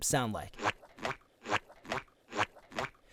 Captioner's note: squeaking